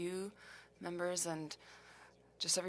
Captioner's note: speaking french